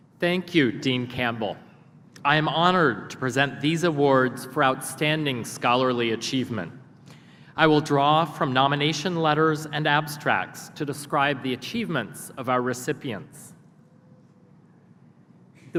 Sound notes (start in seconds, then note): none